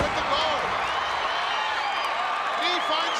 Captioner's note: crowd cheering